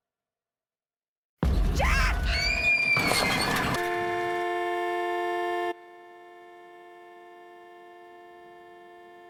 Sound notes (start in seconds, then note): 3.6 woman's Voice; 5.0 screams; 5.5 honking